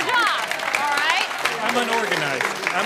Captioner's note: audience claps